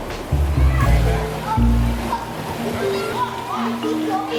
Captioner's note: children talking